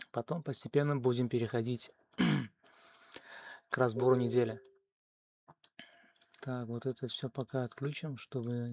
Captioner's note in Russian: откашливается